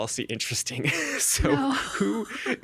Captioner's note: laughing